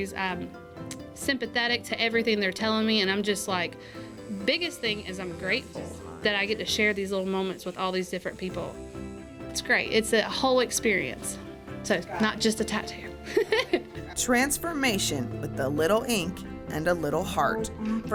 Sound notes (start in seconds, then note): 13.3 laughs